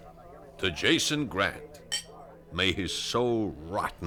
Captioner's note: glass tinks